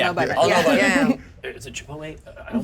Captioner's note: chuckles